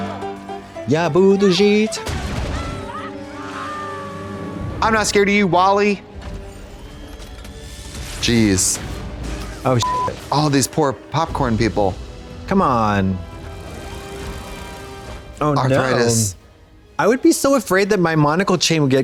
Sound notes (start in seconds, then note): 2.2 dramatic music; 9.8 beep; 13.3 dramatic music